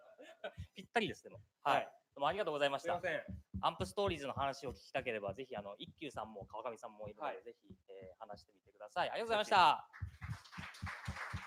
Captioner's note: speaking japanese; speaking japanese